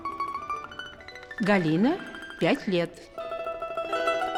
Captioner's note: cheerful music; the woman speaks in russian; cheerful music